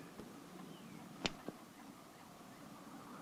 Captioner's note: radio clicks on